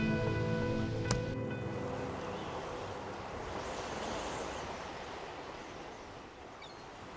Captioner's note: seagulls squawking; water splashing